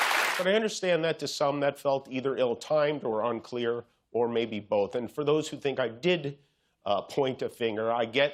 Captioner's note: applause